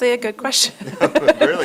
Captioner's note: laughs